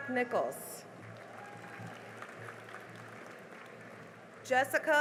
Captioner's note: cheering and applause